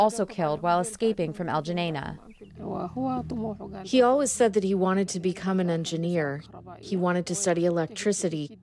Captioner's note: through translator